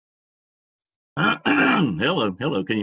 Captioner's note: clears throat